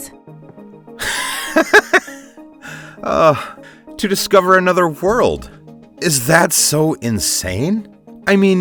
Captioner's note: laugh